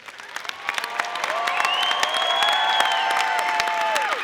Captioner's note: audience applauding